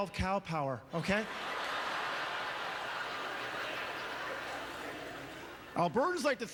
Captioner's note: audience laughter